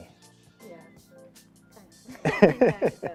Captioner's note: soft music; man laughing